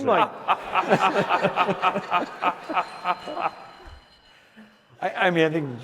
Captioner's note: laughter